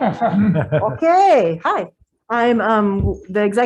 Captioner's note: some chuckling